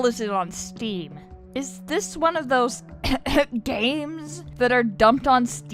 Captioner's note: cough